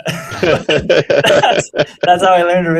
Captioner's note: laughter